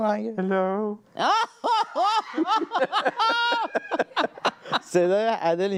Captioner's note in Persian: خنده